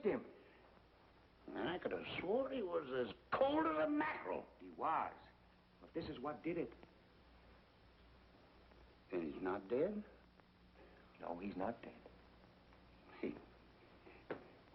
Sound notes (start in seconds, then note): none